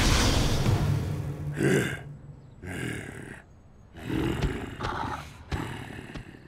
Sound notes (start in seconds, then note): 1.6 growls